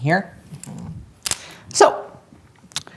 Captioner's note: pen clicks